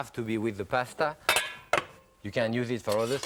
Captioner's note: casserole clanks